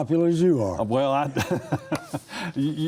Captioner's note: laughing